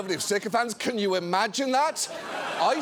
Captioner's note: audience laughing